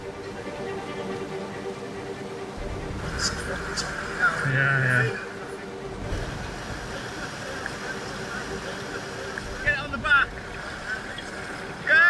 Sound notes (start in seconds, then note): 0.2 intense music; 0.2 water whooshing; 6.2 tractor droning; 6.2 water whooshing